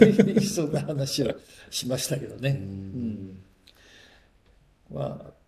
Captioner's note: laughs